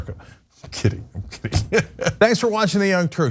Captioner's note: laugh